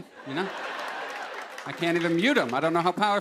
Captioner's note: laughter